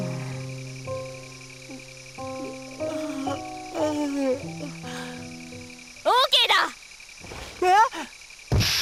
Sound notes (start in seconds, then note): 2.8 yawn